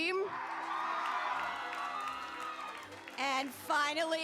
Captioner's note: cheering